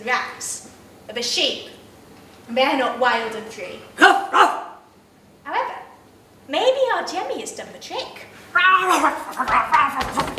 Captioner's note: woof woof